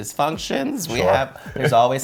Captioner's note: chuckles